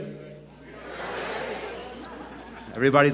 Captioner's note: audience chants "We are ready"